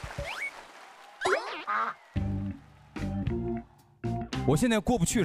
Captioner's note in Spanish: Pasos incontrolables aproximándose